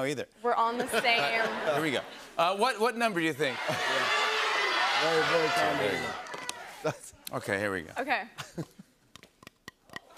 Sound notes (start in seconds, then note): 0.7 laughter; 3.4 audience shouting